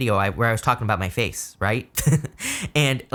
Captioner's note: laughs